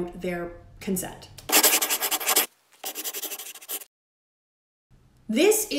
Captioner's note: scribbling